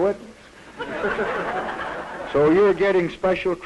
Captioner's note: laughter